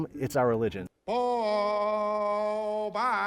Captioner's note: chanting